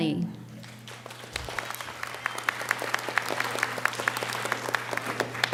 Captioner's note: audience applauding